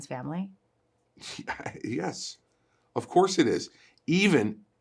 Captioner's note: Christie laughs